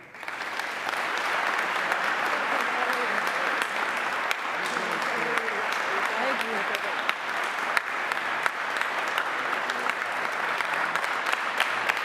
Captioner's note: applause